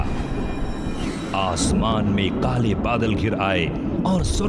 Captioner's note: thundering